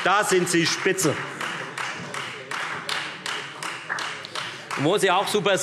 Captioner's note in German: Beifall Freie Demokraten und vereinzelt SPD